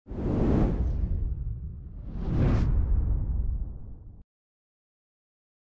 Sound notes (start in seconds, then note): 0.1 logo whooshing